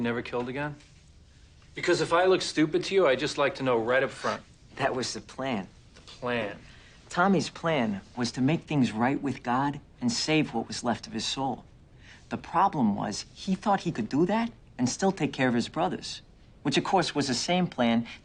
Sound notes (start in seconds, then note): none